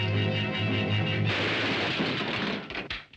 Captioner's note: gun shot sounds